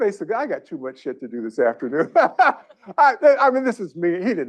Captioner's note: laughs